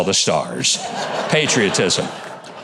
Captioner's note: audience laughing